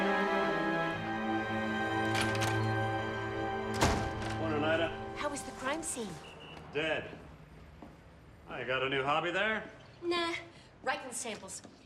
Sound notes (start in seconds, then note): 1.9 door opening